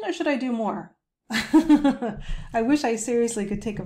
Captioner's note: chuckles